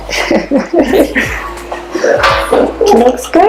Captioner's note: laughs in the background